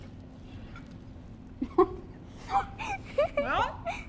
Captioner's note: laughs